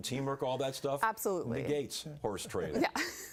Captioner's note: laughter